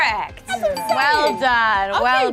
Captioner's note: buzzer rings